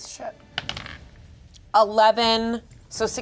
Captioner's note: dice rolling